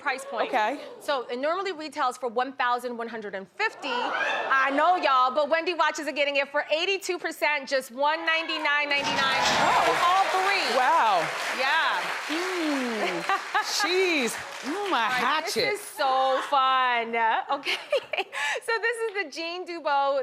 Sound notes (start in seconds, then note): 4.1 audience cheering